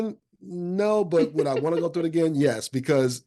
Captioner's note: laughing